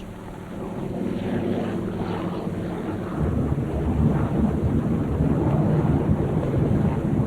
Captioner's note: roaring aircraft engines